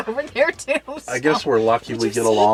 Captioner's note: laughs